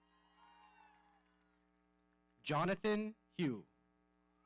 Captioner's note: audience cheering